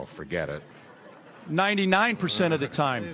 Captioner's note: audience laughter